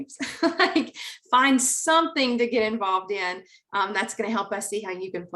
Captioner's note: chuckling